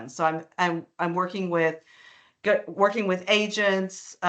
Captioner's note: none